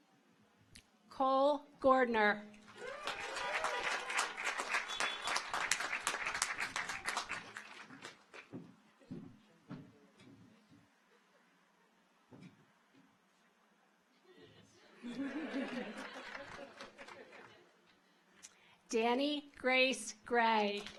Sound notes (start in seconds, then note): 2.6 car horns honking; 2.7 audience applauds